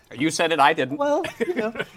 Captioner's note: laughs